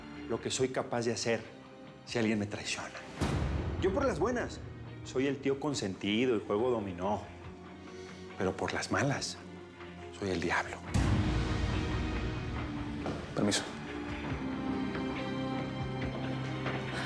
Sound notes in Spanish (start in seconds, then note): none